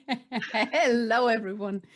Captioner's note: laughs